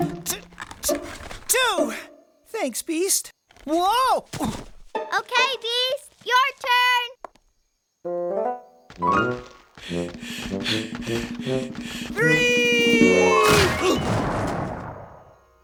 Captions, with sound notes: T... TWO! THANKS, BEAST. WHOA! OOF. OKAY, BEAST, YOUR TURN! [ Panting ] THREE-EE-EE-EE! [ Grunt of landing ] [ Crashing ]